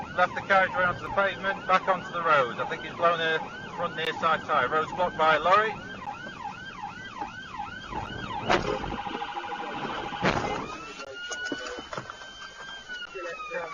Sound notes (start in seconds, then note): 7.9 cars impact; 10.2 cars impact into truck